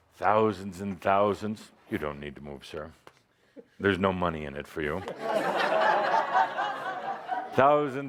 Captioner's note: laughter